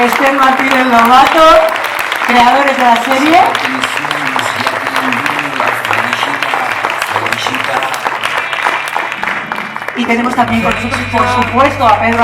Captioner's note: applause